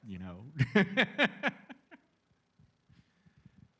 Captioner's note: laughter